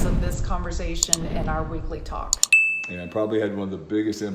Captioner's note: mouse clicks; bell rings